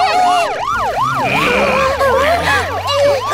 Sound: Tayo shrieks; police grunt

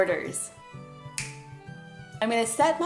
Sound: snapping

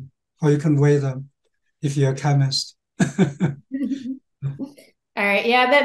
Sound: laughing

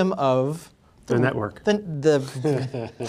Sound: laughs

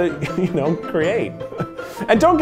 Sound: laughs

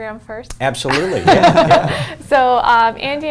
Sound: laughs

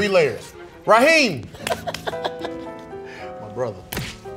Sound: laughs

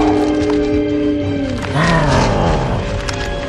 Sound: loud roar

